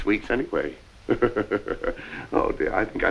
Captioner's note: Piggy laughs